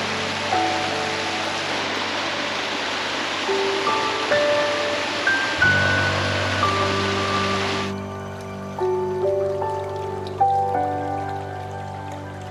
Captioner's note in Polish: Aplauz